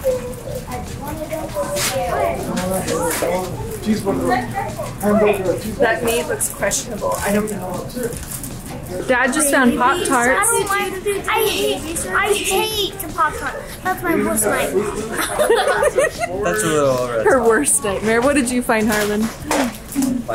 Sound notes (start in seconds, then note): 15.0 laugh